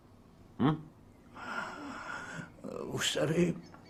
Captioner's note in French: Longue inspiration